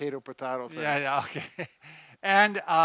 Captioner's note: laughs